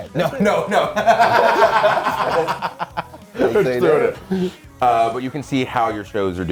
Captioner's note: laugh